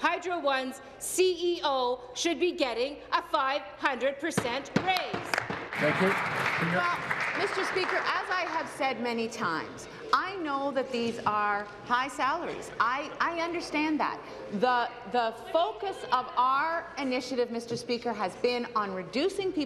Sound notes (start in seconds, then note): 8.8 applause